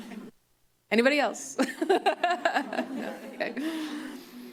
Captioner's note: laughs